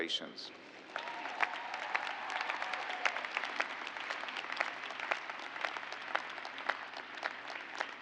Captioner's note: cheers and applause